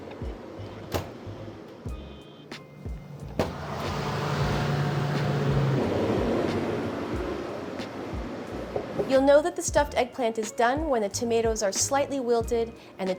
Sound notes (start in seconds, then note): 2.7 sound of loud oven fan